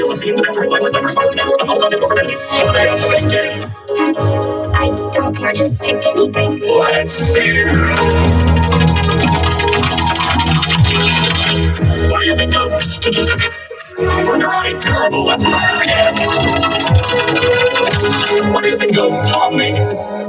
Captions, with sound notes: obscene, defamatory, libelous, slanderous, violent, and/or unlawful content or profanity. What are ya thinkin'? -Huh? I don't care. Just pick anything. -Let's see! [wheel dinging] What do you think of... [stammers phonetic sounds] -I don't-- -You're right, terrible. Let's try that again. What do you think of "Pomni"?